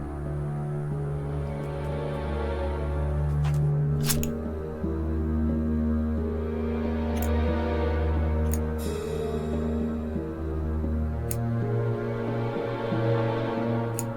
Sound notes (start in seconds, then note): 0.1 eerie dramatic music continues; 3.9 scissors snipping; 9.9 eerie dramatic music continues